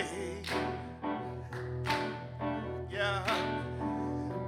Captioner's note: groovy music ontinues; audience clapping